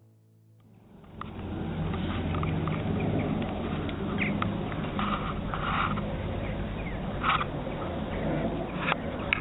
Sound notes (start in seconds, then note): 0.7 birds chirping